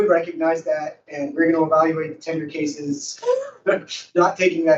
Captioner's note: laughs